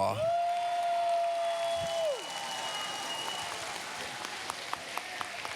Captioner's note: cheers, applause